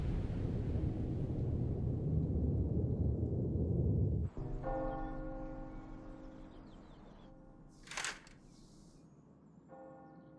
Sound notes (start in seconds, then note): 0.0 sounds of wind & thunder; 4.7 church bells ring out; 7.9 sliding of curtains fabric